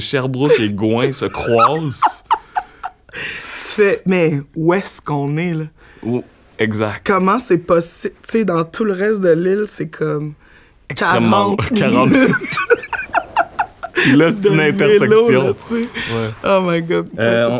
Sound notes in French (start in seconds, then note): 1.3 éclat de rire